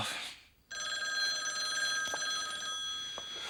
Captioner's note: telephone ringing